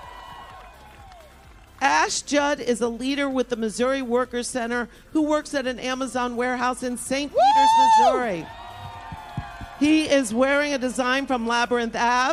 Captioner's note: applause